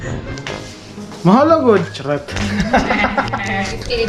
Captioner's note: laughter